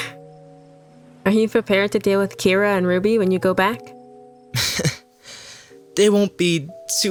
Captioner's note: chuckles